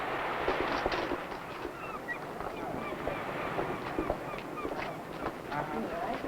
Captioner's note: seagulls cawing; women chatting softly